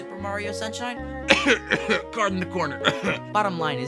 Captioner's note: cough; cough cough